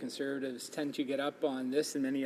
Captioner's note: speaking in french